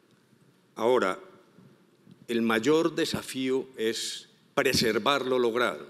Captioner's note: speaking in foreign language